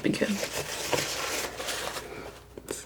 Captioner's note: scratching